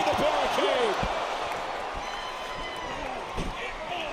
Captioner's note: crowd cheers